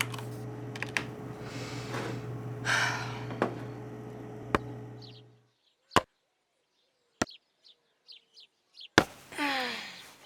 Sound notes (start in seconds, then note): 3.3 wood knocking; 4.3 birds chirping